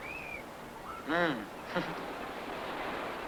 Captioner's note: chuckles